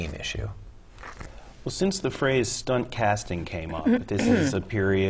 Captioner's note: cough